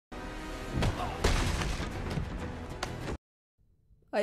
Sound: fighting sounds

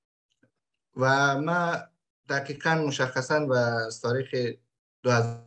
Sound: speaks in Dari

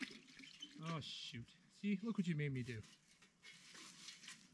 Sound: water splashing

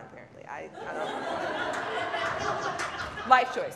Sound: audience laughs

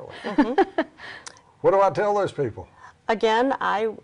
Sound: laughing

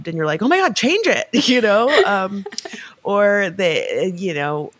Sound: chuckling

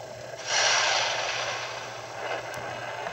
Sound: flames Bursts

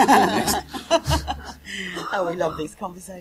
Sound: laughter

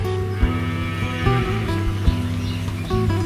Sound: cow noise

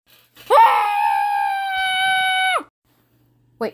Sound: screaming

